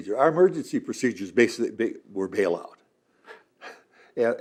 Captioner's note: laughs